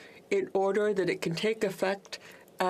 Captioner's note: speaking French